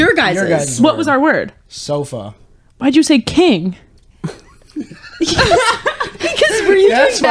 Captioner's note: laughing